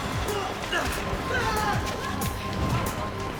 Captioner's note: grunting